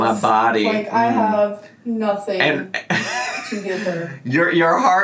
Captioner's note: laughs